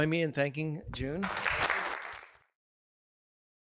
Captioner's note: applause